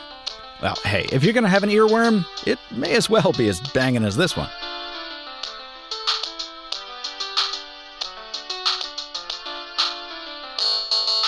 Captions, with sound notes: well hey, if you're gonna have an ear worm, it may as well be as banging as this one. (upbeat polyphonic ringtone)